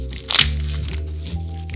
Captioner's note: garlic paper rustling